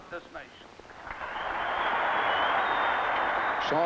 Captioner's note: audience cheering